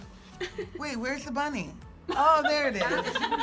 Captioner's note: laughs